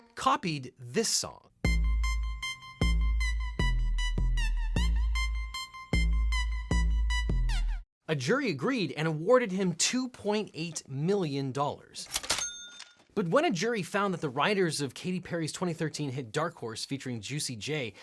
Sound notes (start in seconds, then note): 12.0 register cashing